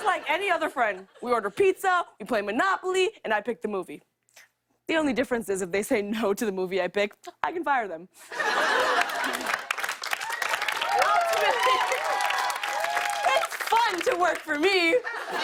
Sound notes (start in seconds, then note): 8.2 laughter; 8.6 cheers and applause; 14.9 laughter